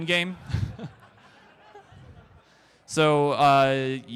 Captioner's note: crowd Laughter